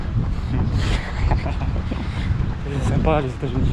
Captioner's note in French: rire nerveux